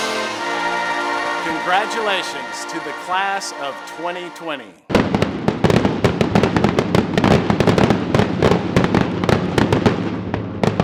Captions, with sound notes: - Congratulations to the Class of 2020. (fireworks explodes)